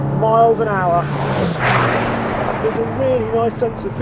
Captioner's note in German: Valhalla rauscht